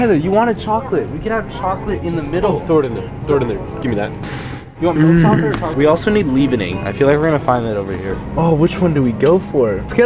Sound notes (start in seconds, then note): 4.2 sniffs